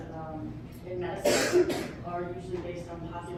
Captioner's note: cough